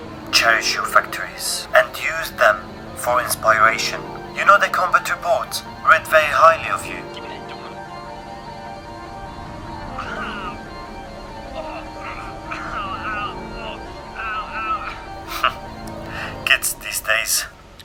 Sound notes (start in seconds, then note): 11.0 the sounds of violence; 15.9 chuckles